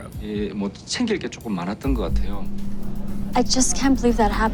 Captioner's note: speaking foreign language